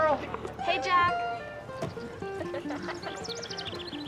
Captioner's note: giggles